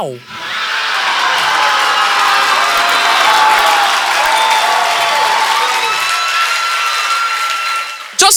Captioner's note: audience applause